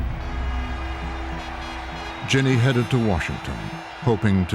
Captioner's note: crowd cheering